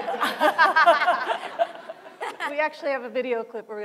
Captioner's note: laughter